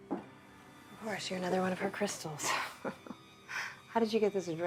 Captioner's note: laughs